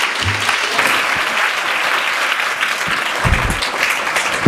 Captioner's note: applause